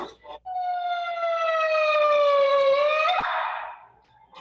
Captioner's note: siren blaring